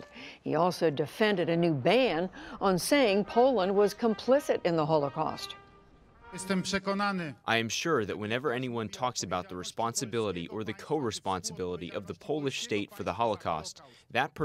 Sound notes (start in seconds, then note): 6.5 through translator